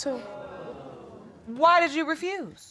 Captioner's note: audience exclaims